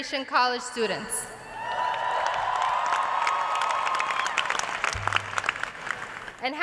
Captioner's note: cheers and applause